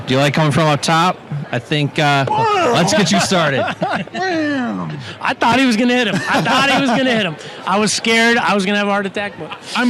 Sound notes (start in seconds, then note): 2.2 exclaims; 2.5 laughing